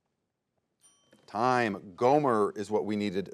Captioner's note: bell dings